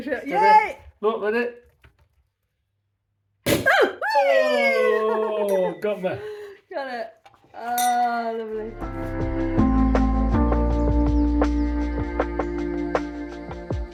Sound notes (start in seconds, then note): 3.4 loud pop; 4.0 cheering; 7.6 glasses chinking; 8.7 chilled music